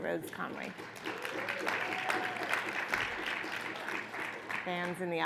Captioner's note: audience applauds